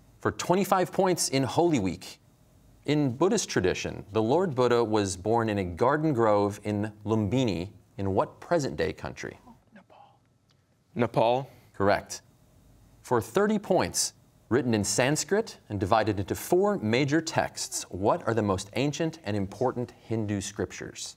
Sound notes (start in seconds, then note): 9.9 whispering